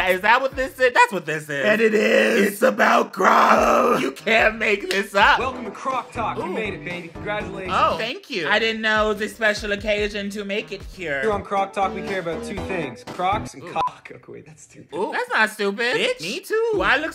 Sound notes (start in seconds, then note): 13.3 beep